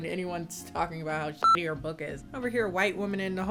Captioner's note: beep